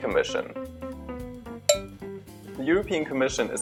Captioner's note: ding